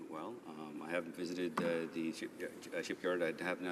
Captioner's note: speaking in french